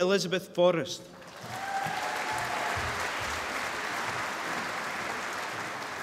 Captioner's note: applause